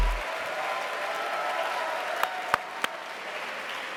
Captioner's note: cheering